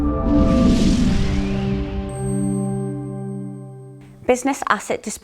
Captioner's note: upbeat swooshing sound